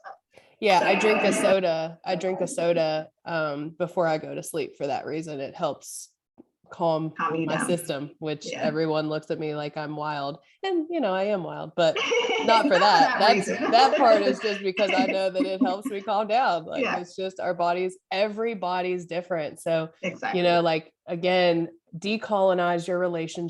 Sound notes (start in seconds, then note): 14.6 laughter